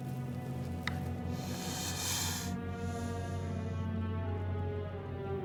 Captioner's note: snake hissing